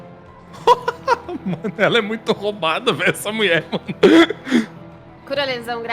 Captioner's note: laughs